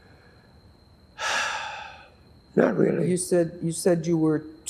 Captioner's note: sighing